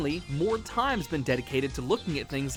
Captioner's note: none